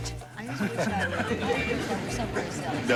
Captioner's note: stars chatting